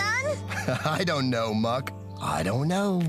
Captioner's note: laughing